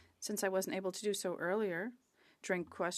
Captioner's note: speaking French